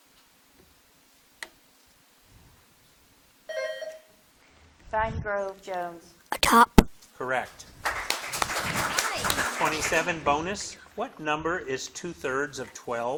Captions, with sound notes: (bell dinging) - Vine Grove, Jones. - A top. - Correct. (audience clapping) 27, bonus. What number is two-thirds of 12?